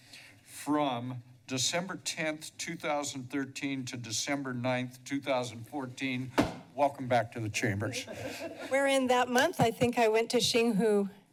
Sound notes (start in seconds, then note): 7.9 laughter